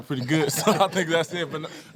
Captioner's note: panel laughing